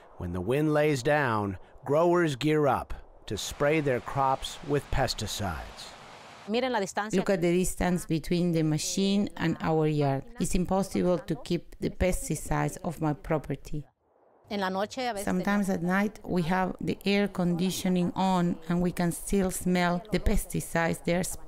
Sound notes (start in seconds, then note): 6.5 through translator